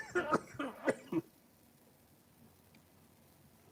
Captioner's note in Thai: เสียงหัวเราะ